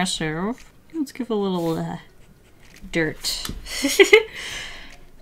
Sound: laughs

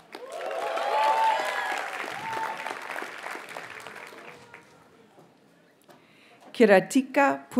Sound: audience cheers and applauds

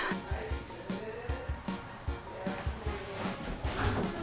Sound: distant talking

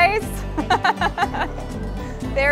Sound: laughter

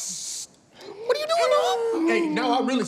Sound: vocalizes

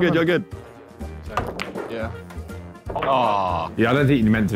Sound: cue striking ball

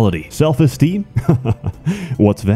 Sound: laugh

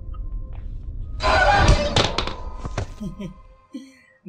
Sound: laughter

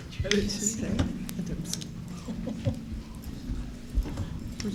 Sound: chuckling

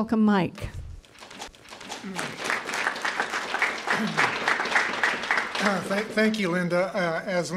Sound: applause

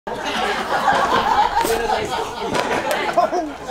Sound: laughing

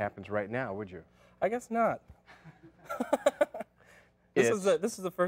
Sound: laughs

